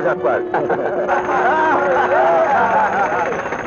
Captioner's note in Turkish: Karşılıklı kahkahalar, bağırışlar